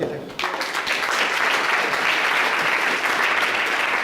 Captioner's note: clapping